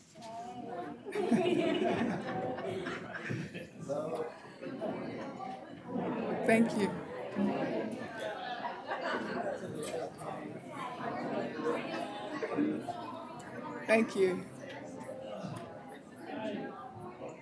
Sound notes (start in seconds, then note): 0.1 chatter; 6.9 chatter